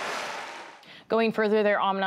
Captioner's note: cheering and applause